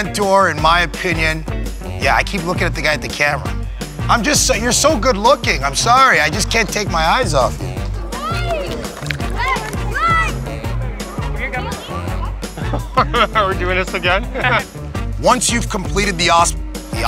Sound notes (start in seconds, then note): 9.2 chewing gum; 13.3 laughing